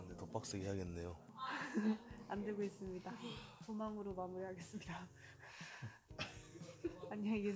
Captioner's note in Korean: 웃음